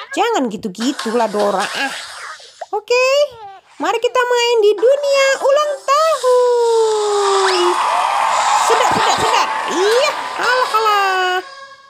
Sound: applause

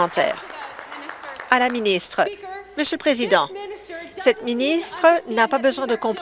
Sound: applause

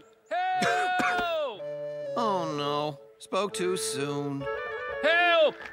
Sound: choking

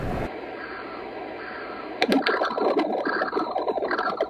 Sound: bubbling, pumping

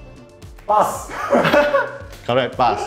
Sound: laughs

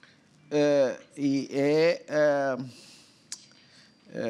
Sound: speaking portuguese

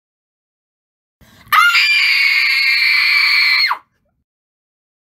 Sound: scream

